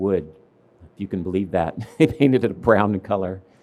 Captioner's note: laughs